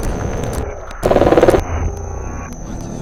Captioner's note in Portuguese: Clicando, distorção de áudio; Clicando. O ADMINISTRADOR aparece, rosnando